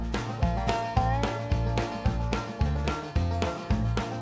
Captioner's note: laughing